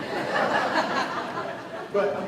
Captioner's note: laughing